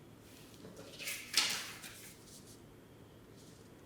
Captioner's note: paper rustling